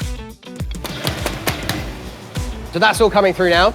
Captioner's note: loud slamming